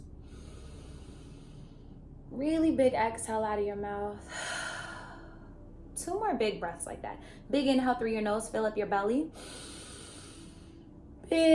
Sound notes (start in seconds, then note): 0.2 inhaling; 4.2 exhaling; 9.4 inhaling